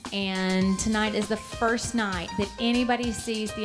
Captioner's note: none